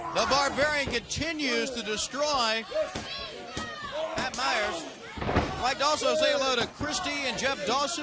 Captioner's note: crowd chatter